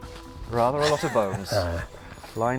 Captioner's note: chuckles